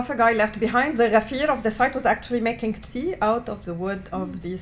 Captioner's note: non-english